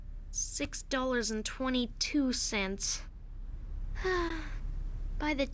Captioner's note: sigh